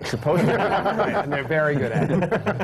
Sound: laughter

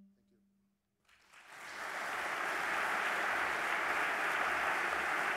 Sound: applause

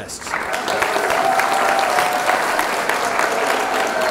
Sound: applause

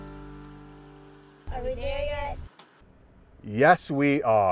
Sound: kids voices

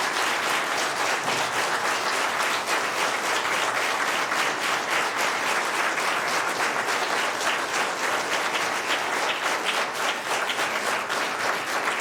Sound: applause

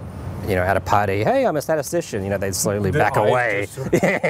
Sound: laughter

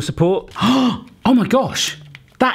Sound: gasping

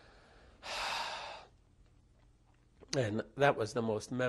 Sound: sighs

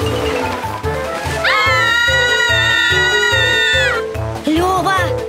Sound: everyone screams

